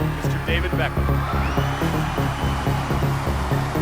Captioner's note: cheers, applause